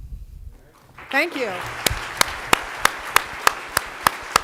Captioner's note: applause